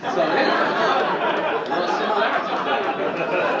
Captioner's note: audience laughing